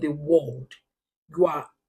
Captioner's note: paause